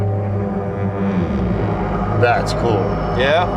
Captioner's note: deeper ominous sound